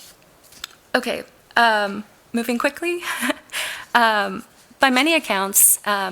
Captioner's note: laughs